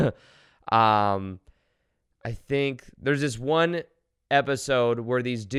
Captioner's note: giggles